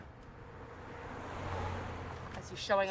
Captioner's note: car whooshes